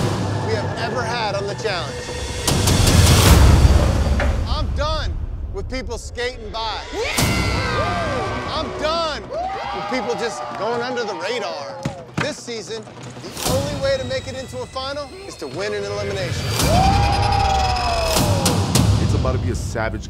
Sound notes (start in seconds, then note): 7.0 yelling